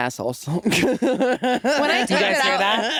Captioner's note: Jinkx laughing